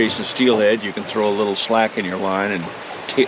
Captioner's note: water flowing